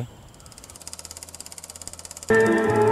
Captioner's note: old film projector